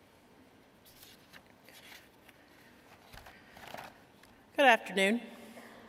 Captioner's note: sound of pages turning